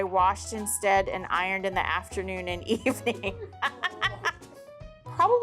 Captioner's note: laughs